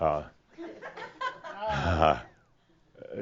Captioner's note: some giggles